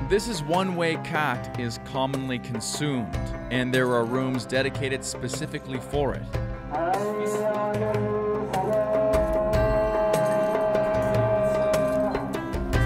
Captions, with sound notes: This is one way khat is commonly consumed, and there are rooms dedicated specifically for it. (man chanting in Arabic) (traditional music)